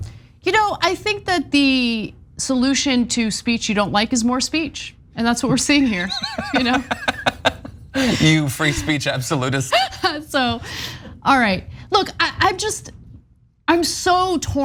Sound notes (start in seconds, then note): 5.8 laugh; 10.3 laugh